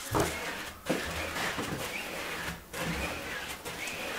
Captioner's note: scratchy sliding